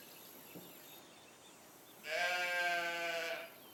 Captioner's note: bleating